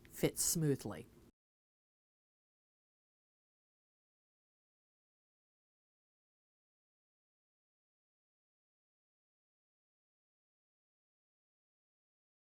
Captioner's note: no Sound Present